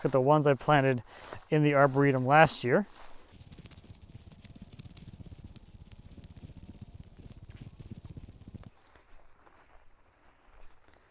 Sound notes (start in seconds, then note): 2.7 video thuds quickly